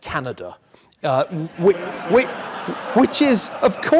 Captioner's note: laugh